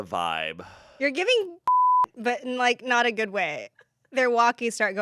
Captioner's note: beep